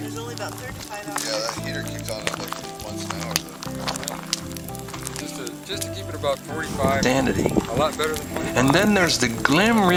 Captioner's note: talking at camp fire